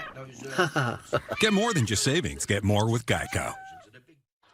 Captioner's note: tense chuckle